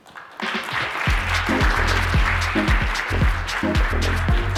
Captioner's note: applause